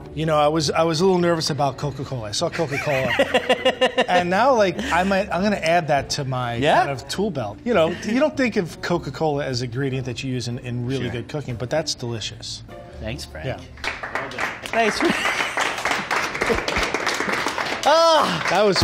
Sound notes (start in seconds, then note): 2.5 laughter; 13.7 applause; 15.0 laughter